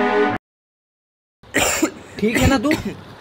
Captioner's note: coughs shockingly